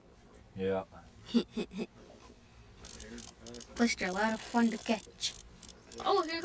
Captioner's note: laughs